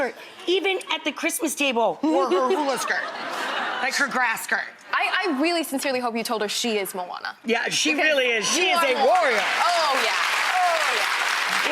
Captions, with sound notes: Even at the Christmas table, wore her hula skirt! (audience laughs) Like, her grass skirt. I really, sincerely hope you told her she is Moana. Yeah, she really is. You are Moana. She is a warrior! Oh yeah.